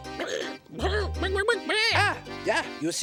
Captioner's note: chicken clucking